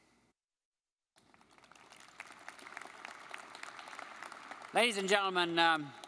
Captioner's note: audience clapping